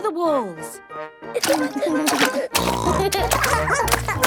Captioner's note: barking; giggling; snorting